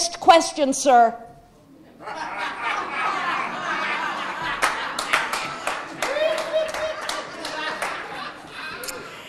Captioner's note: audience laughing